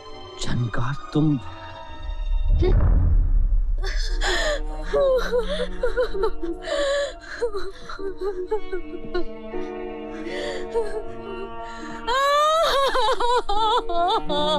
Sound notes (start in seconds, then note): 2.5 scoffs; 4.2 wailing